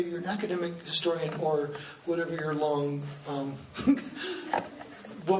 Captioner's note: laughs